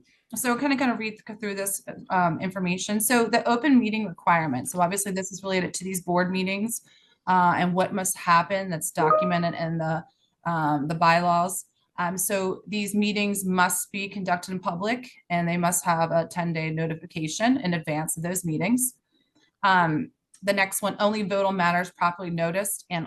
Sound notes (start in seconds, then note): 9.0 computer chime